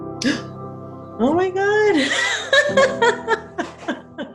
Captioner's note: laughs